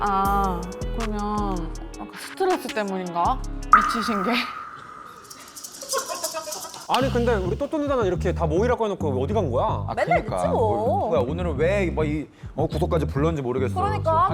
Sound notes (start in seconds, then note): 3.7 glare sound effect